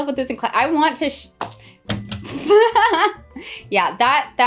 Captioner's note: laughing